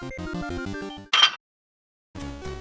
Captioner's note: metallic clank